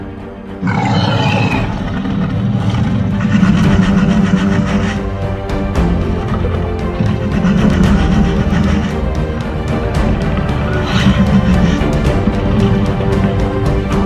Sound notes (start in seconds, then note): 0.5 low growling; 13.8 suspenseful music